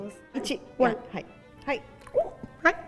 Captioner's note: speaking in Japanese